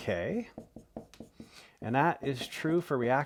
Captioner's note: marker scratching